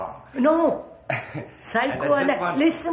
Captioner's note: laughs